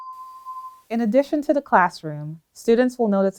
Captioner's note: bell tone